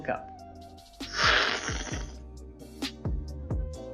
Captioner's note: slurping